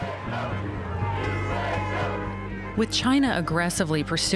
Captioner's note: chanting